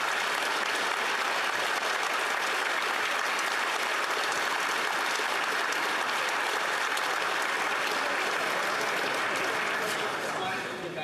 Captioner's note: applause